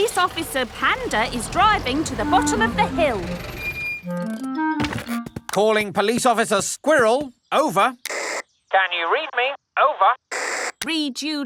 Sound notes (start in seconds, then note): 8.0 walkie-talkie crackles